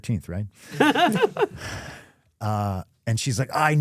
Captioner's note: Stephanie laughing